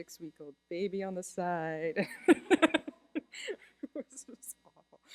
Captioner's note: laughter